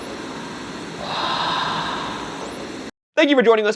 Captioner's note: voice whispers